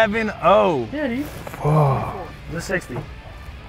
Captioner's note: sighs; men chuckling